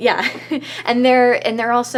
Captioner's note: laughs